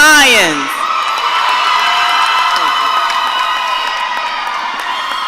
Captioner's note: audience cheering